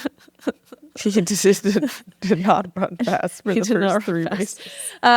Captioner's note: giggles